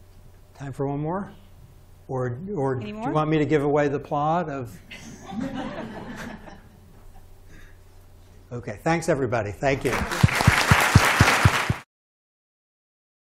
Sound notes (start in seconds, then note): 4.9 laughter; 9.8 applause